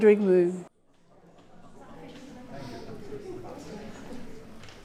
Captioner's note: people chattering